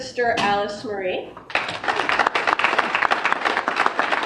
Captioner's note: applause